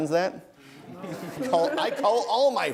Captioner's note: laughing